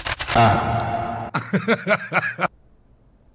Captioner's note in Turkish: gülüş